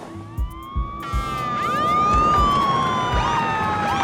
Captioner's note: distant gunfire; sirens wailing